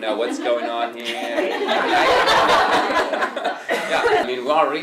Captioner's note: laughter